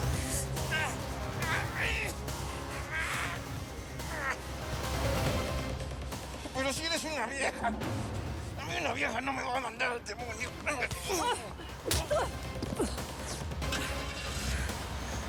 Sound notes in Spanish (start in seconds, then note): 11.8 bofetada